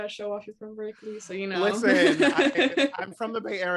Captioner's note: laughs